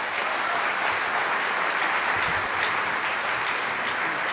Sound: applause

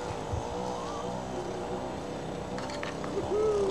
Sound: motor humming

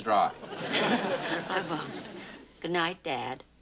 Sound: laughs

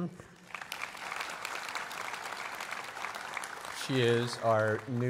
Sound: applause

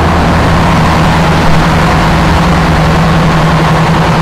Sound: boat roars

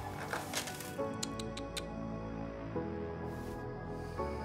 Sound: tsking

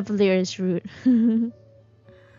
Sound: laughs

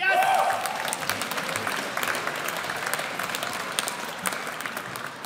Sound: audience applauds

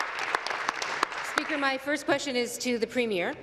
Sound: applause

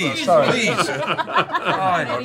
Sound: laughing

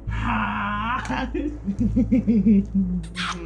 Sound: giggles

